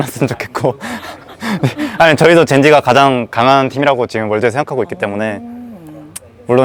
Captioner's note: laughs